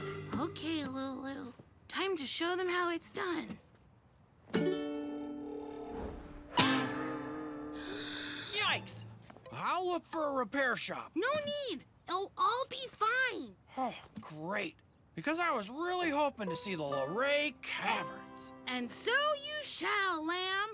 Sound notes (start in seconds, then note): 6.5 boing!; 7.7 gasps